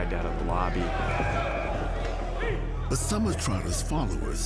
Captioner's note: shouting